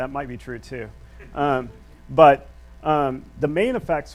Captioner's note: audience laughs